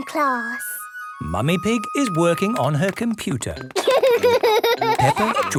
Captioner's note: laughter